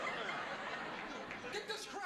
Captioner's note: laughter